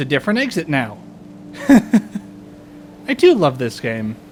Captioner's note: laughter